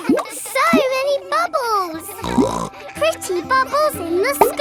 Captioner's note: snorts